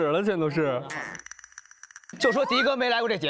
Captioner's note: all in silence